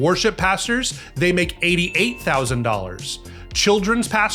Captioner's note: bell dings